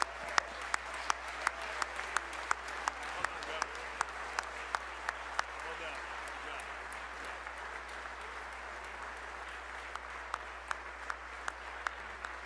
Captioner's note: applause